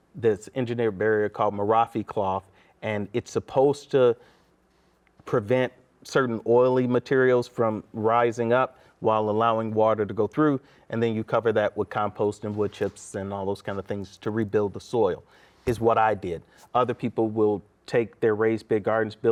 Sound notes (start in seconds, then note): none